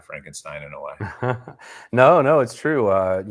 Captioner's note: laughing